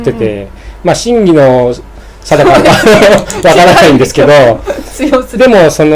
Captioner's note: launghing